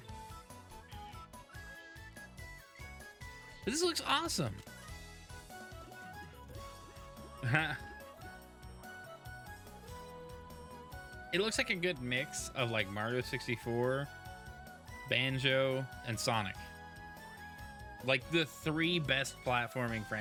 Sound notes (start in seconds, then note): 7.4 laughs